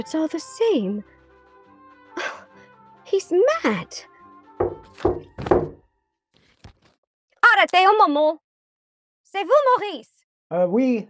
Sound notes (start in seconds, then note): 4.6 knocking on door; 7.4 speaks in foreign language